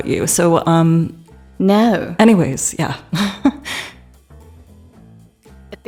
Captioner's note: chuckles